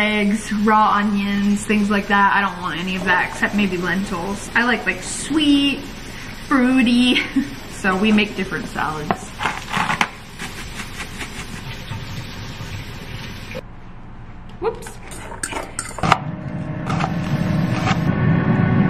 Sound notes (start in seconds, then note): 9.4 pepper grinds; 16.1 knife chops